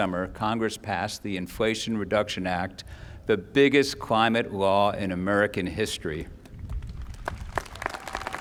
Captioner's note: applause